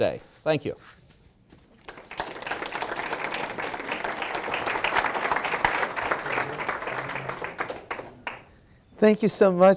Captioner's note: applause